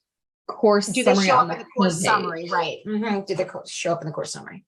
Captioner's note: chattering